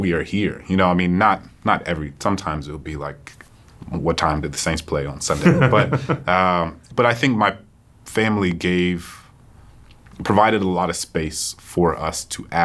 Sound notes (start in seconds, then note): 5.3 John chuckles